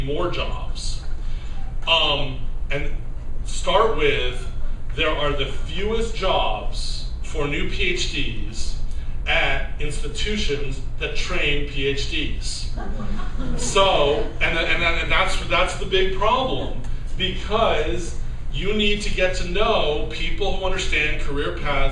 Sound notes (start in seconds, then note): 12.8 laughter